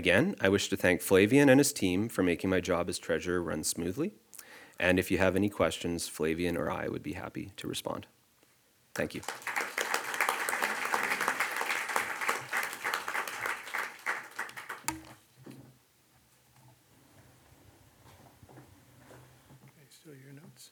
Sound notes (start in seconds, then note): 8.9 audience applauds